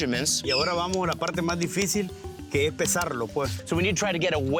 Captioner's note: speaking Spanish